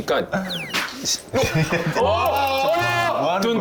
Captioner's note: flop